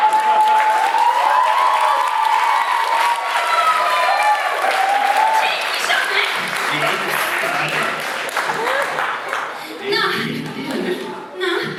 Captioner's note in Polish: Aplauz